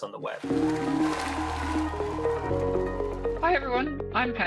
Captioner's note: applause